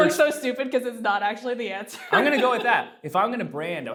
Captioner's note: laughs